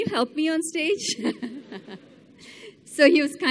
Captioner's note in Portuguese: Risos